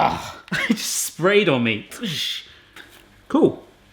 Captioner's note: laughs